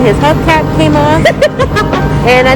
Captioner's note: laughing